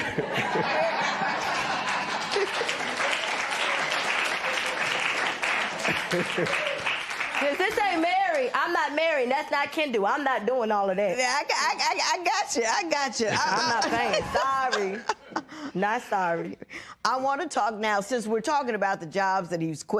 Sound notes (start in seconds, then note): 0.0 laughter; 2.9 laughter and applause